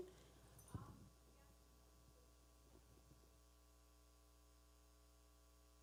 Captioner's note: person speaking away from mic